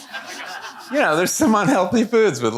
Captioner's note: audience laughing